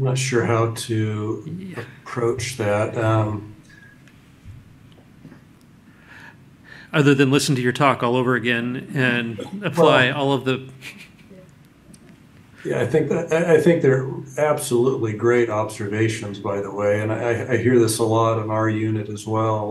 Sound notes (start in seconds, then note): 11.7 laughs